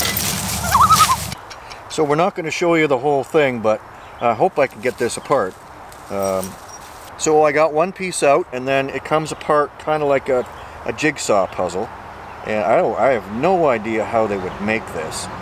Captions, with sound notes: [loon call] So we're not gonna show you the whole thing but, I hope I can get this apart. I got one piece out and then it comes apart kind of like a jigsaw puzzle. I have no idea how they would make this.